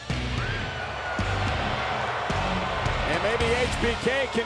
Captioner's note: pensive music; audience cheers